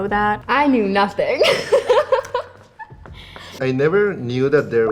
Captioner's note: laughs